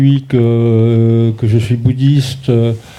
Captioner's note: speaking in French